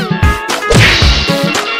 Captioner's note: crash!